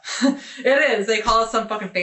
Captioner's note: chuckling